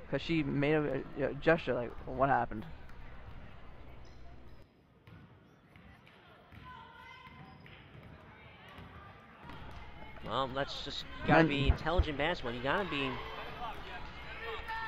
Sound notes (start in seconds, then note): 4.0 crowd talking and yelling